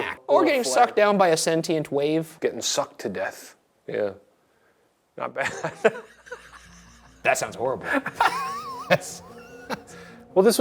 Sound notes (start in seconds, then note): 5.4 Shane laughs; 7.8 Shane and Ryan laughs